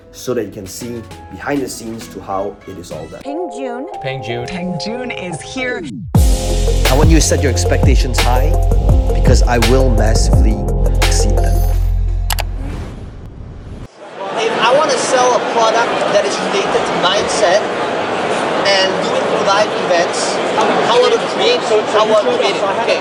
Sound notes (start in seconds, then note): 12.3 mouse clicks